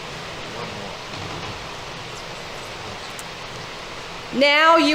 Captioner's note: people chattering